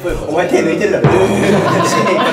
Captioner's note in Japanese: 効果音：どぅーーーん